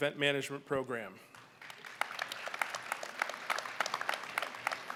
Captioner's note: applause